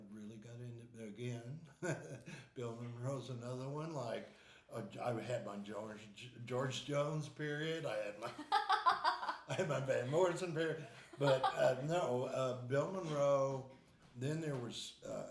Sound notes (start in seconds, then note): 8.2 laughing